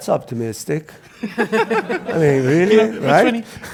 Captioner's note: laugh